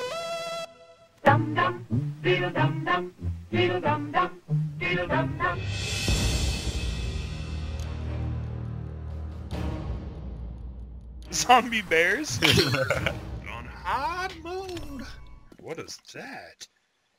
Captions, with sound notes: *LAUGHS* Goin' hard mode... What is that?